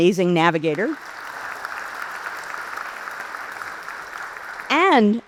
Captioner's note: audience applauds